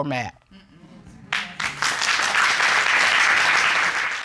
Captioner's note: audience applauding